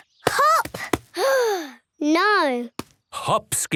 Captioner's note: sigh